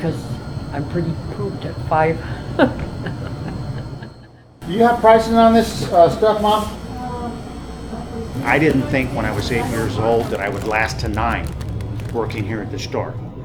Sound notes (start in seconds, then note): 2.2 laughs